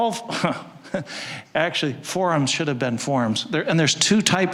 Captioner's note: chuckling